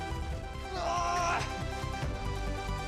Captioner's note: groaning